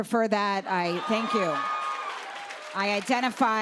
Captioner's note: cheers and applause